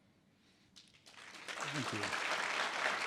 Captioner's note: audience applause